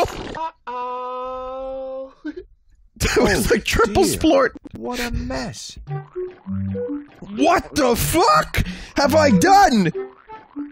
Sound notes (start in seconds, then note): 3.0 laughs